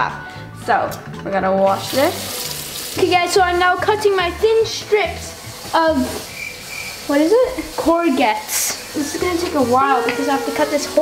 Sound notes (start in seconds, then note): 1.8 water running; 6.2 crickets chirping